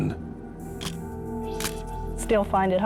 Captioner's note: camera shutter click